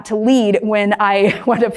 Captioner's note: laughs